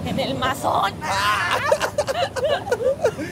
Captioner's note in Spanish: Risas